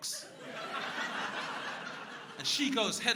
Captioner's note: crowd laughing